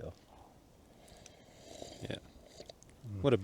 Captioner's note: slurps